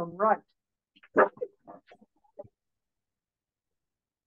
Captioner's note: noise of camera